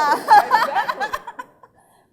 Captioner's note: laughing